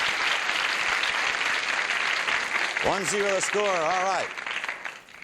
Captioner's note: applause